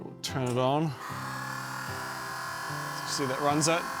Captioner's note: motor whirrs